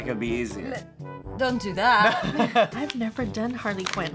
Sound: chuckles

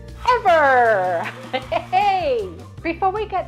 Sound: crowd cheering

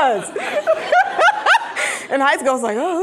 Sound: laughing

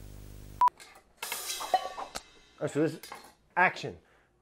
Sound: beeping

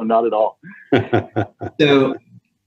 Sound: laughing

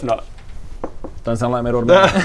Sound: tap tap

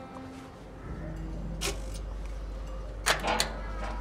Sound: lock click

